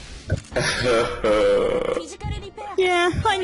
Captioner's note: cries